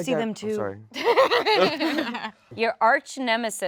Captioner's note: laughs